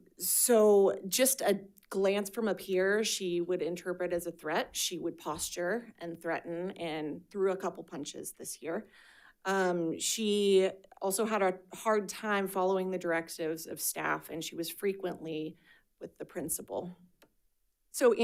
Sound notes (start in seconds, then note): none